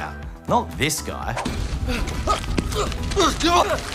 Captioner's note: grunts